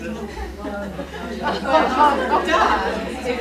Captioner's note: people chattering